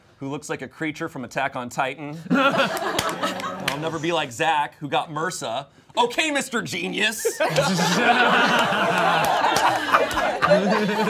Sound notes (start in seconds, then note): 7.1 all laughing